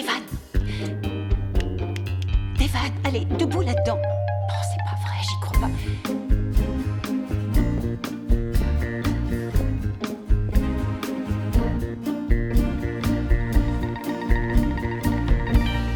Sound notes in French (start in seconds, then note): 1.9 elle claque des doigts; 5.7 elle murmure